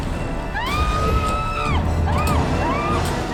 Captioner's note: screams